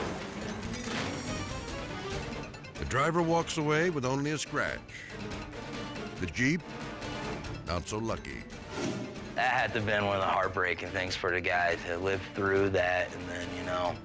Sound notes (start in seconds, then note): 0.2 suspenseful music; 5.1 dramatic music; 8.7 air whoosh